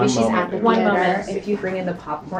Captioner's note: woman's Voice